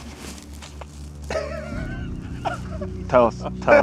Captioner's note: chuckling